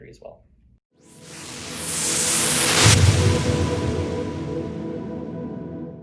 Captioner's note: whooshing